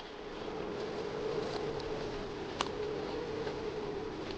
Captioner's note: wind howling